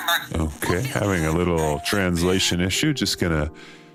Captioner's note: alien-sounding gibberish